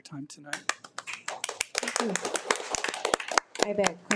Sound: audience applauding

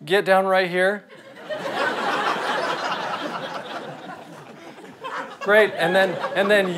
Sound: audience laughter

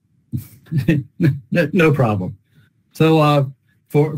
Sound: chuckles

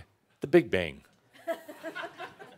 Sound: some chuckles

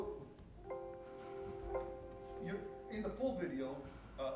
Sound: computer ringing

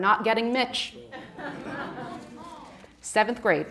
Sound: audience laughing

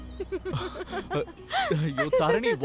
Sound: both laughing

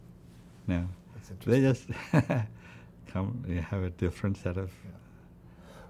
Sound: laughs

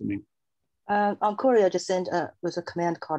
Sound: soft Voice

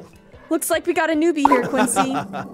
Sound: laughs

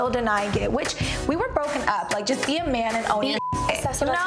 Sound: beep

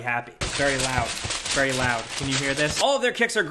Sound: paper crinkles

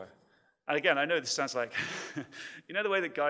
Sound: laughs

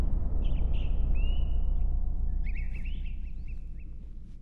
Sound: birds tweet

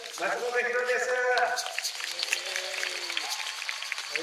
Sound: applause

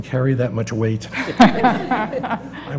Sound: laugh

